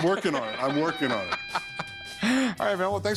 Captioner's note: laughs